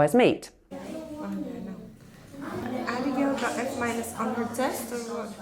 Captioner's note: people chattering